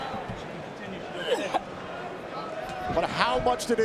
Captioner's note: Ember coughs